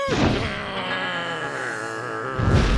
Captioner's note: growling; fire crackling